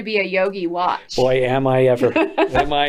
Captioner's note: laughs